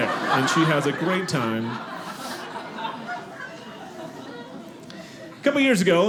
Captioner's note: audience laughing